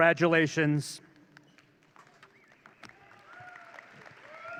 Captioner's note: audience cheering